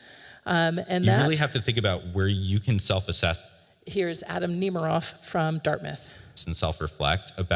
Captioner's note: recording plays